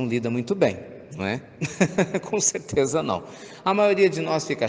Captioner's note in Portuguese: risos